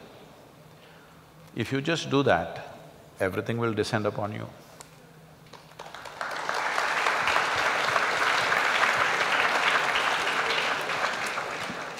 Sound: applause

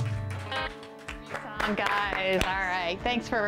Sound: applause

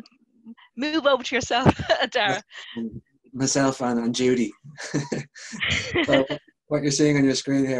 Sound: laugh

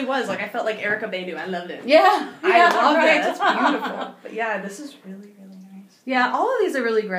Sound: laughing

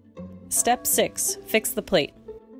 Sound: quiet, rapid music; gong chimes

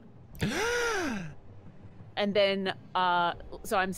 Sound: Freely gasps

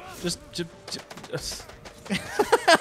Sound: confused babbling; laughing

